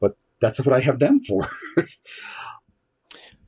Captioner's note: laughs